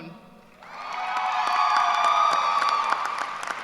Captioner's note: cheers and applause